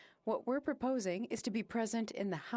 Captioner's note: speaking FRENCH